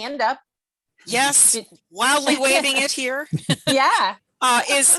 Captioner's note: laughs